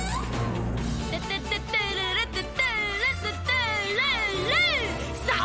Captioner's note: Chup humming theme song